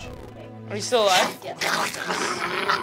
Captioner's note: snarling